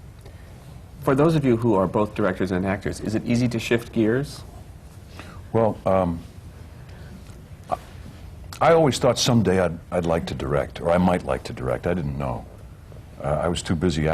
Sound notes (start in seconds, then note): none